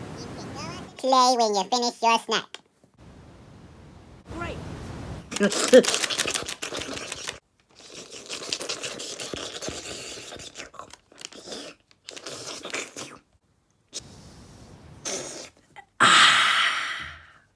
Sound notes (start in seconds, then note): 5.4 Luigi Munching; 11.4 slurping